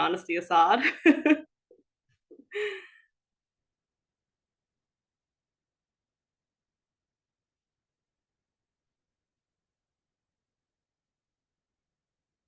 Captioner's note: laughing